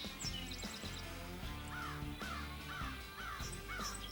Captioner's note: birds cawing